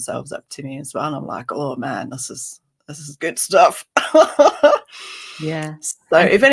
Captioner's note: laughs